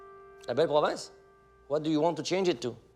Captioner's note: speaking foreign language